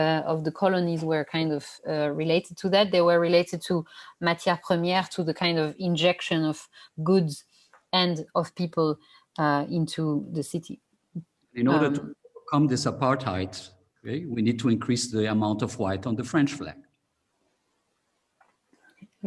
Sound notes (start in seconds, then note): 4.0 non-english speech